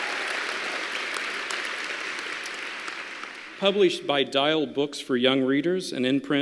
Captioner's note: applause